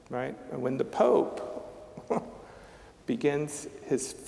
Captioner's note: chuckling